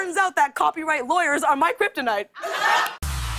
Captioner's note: laughter